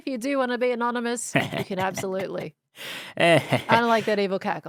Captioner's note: chuckles; evil laughs